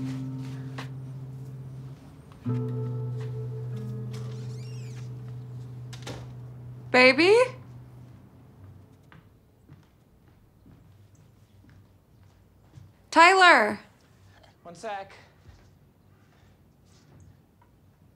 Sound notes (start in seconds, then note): 4.0 door creaks; 6.1 door closes